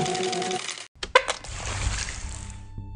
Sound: squirt

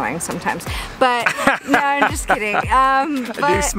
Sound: laughs

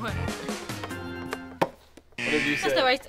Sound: buzzer

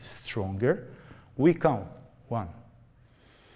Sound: breathing slowly

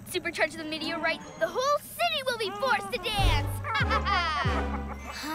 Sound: evil laugh

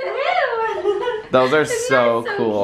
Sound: giggling

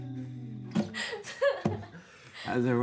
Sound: laughter

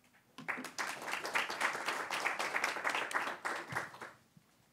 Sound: applause

